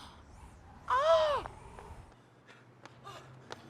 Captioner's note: breathing heavily